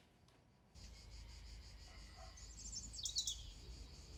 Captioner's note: birds singing